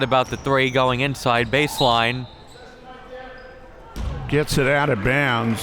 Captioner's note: whistle blows